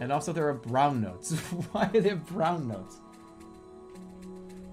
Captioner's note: bursts out laughing